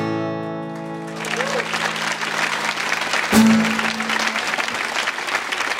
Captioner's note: audience applauds